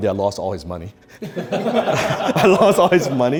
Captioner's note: men laughing